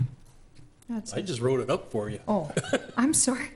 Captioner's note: laughs